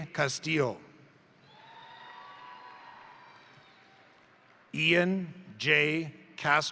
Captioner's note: crowd cheering; crowd applauding